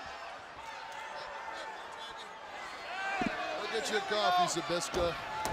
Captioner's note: crowd chatter